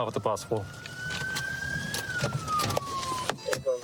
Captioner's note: sirens blaring